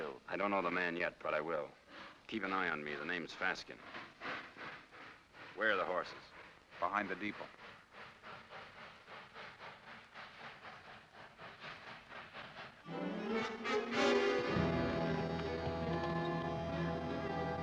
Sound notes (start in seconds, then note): 8.4 train chugs away; 12.8 suspenseful ominous music